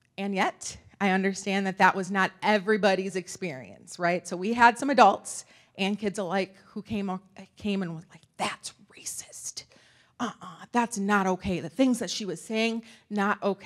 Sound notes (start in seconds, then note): none